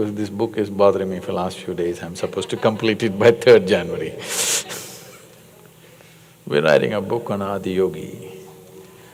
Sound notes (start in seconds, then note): 5.3 laughs